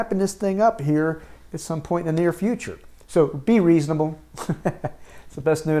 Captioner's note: chuckles